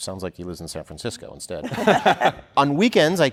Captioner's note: laughter